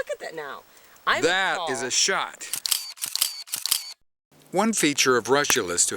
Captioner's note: shutter, shutter, shutter